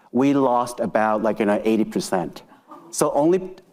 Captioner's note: attendees laughing